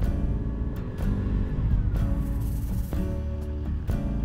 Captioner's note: quiet engine rattling